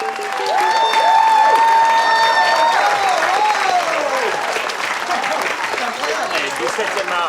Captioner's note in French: aplaudissement